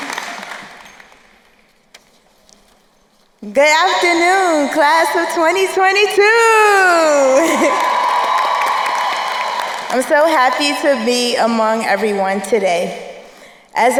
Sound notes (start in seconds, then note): 6.8 crowd cheering and applauding; 7.3 chuckles